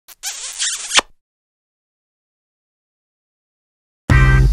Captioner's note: kissing sound